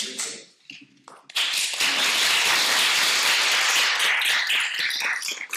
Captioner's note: audience applauding